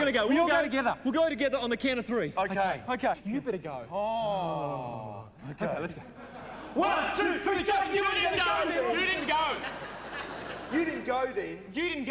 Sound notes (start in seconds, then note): 3.8 groaning